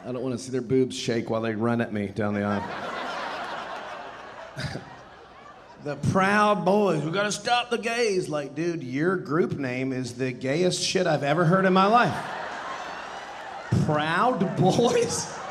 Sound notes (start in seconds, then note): 2.3 audience laughing; 2.8 chuckling; 11.8 audience laughing